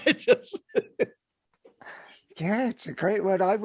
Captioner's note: laughing